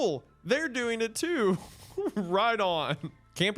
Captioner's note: laughing